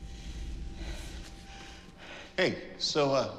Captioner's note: panting